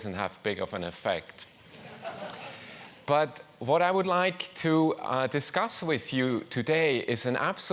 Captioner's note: laugh